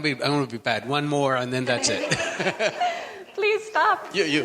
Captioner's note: laughs